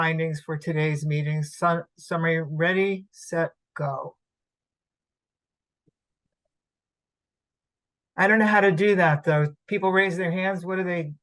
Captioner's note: pause